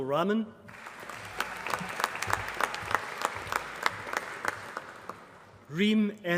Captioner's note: applause